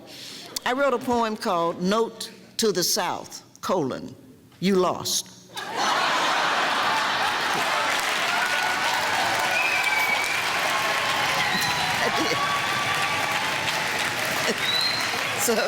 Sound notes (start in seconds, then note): 5.5 laughing, clapping, cheering